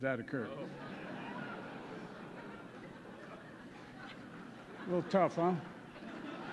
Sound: laughter

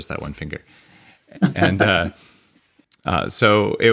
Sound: Byron laughs

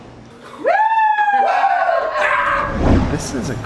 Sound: cheering

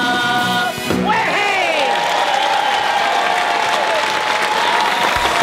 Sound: applause

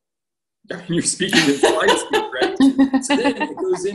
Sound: laughter

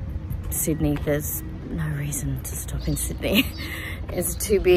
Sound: scoffs

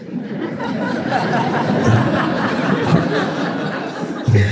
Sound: audience laughs

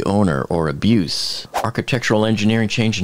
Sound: air whooshing

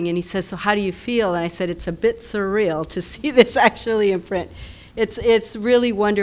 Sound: laugh

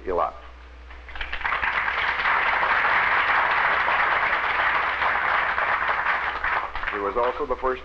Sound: applause

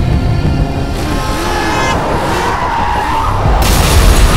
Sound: brakes squeal

